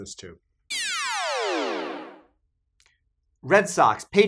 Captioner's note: electronic buzzing